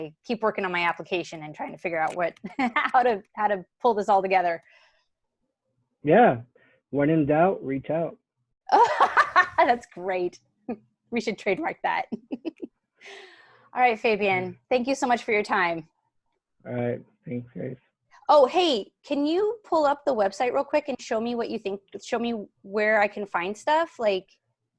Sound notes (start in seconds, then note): 12.0 chuckles